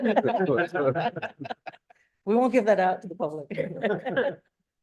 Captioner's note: laughter